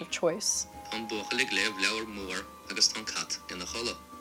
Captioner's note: Rosetta Stone lesson playing